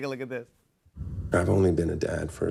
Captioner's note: American accent